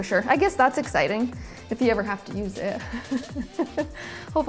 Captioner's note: laughs